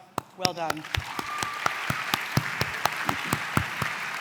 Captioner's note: applause